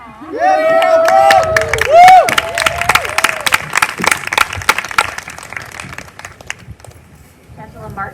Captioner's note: applause